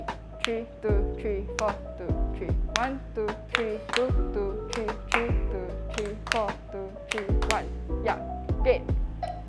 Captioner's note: claps and counts